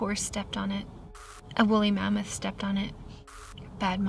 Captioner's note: static crackles; static crackles